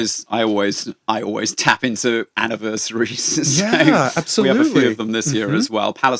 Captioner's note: laughs